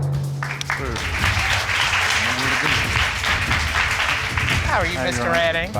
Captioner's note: crowd applauding